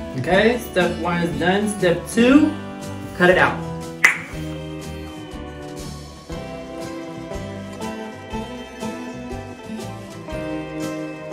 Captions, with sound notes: okay Step One is done step two: cut it out! [tongue pop]